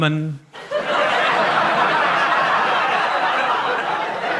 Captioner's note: audience laughs